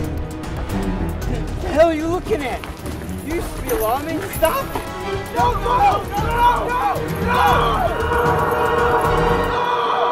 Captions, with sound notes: - You! What are you looking at? You used to be a lawman, stop them! (yelling)